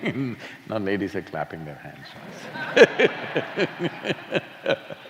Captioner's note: laughs; laughter